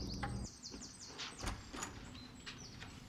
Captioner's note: door opens